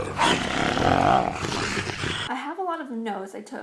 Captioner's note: growling